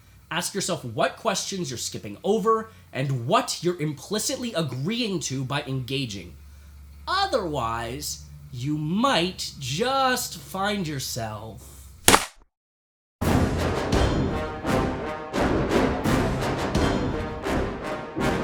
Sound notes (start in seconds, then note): 12.0 A mousetrap snaps shut